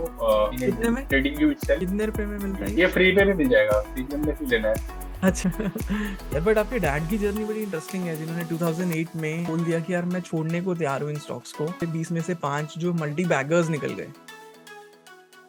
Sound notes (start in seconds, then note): 5.2 chuckles